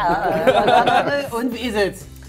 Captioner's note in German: Lachen